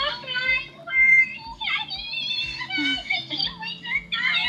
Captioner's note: excited chattering